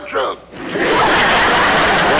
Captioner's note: audience Laughing